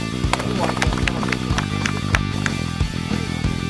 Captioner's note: applause